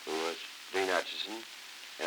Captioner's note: Murrow, mumbling